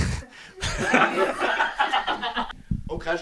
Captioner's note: laughter